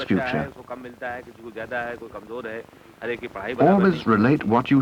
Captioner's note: non-English speech